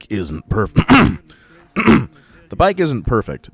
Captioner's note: clears throat and narrates in his normal buttery smooth voice